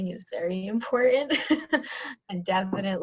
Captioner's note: laughter